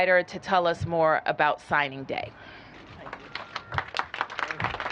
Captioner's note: applause